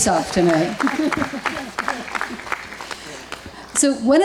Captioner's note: audience applauds